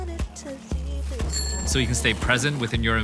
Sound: bell dings

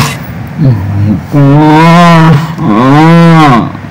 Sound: moaning accent

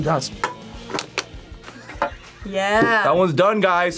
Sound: laughs

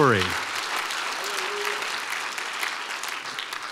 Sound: applause

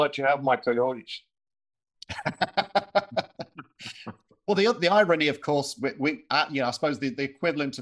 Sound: laughing

